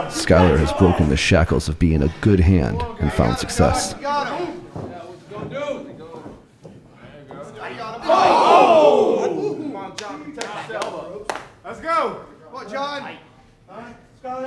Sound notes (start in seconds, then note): 3.7 audience cheering